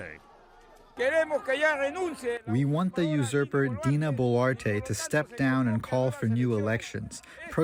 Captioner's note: through translator